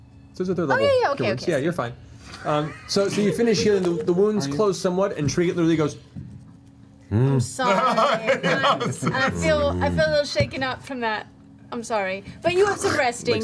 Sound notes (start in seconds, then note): 7.0 questioning growl